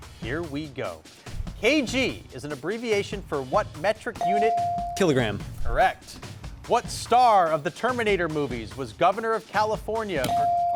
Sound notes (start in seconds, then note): 4.2 bell dings; 10.3 bell dings